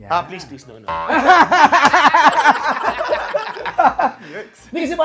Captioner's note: laughing